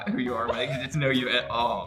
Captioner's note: Emma laughs